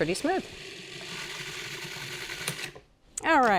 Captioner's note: food processor whirring